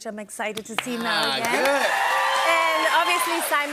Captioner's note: cheers and applause